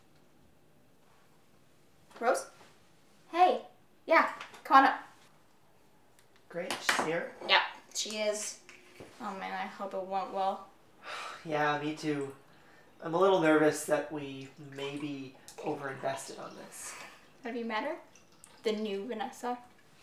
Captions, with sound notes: Rose? Hey... Yeah. Come on up. - Great, she's here? - Ya. She is. - Oh man, I hope it went well. - [sigh] Yeah me too... I'm a little nervous that we maybe over invested in this. Have you met her? The new Vanessa?